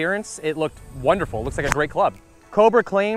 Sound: whooshing sound

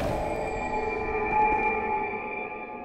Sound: none

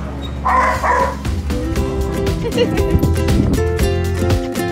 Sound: upbeat music; laughter

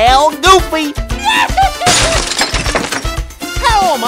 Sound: goofy holler

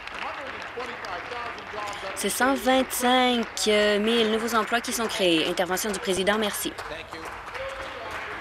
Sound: applause

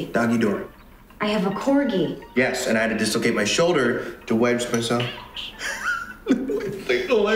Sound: laughing at something

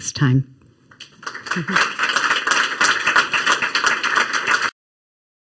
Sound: crowd applauding

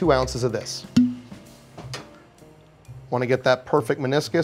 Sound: cheerful music; cap popping

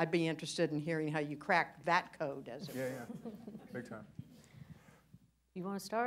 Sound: laughter

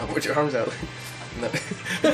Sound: laughs

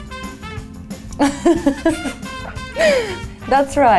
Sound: laughing

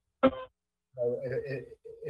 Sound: ~audio distortion~

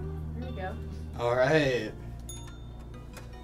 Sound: cheesy music plays; bell ringing

